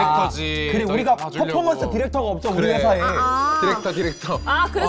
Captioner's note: achievement unlocked sound effect